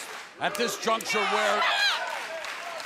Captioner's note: fans chanting